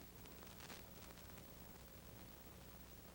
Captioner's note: none